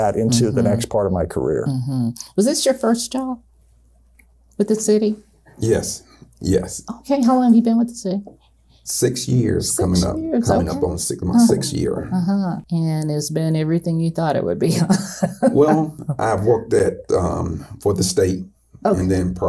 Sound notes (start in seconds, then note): 14.7 laughs